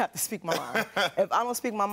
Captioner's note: Karamo laughs